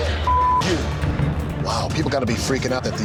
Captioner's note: beep